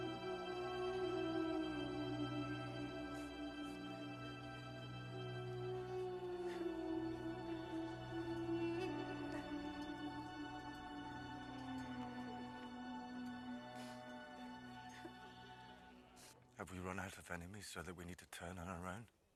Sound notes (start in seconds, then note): 4.5 sobbing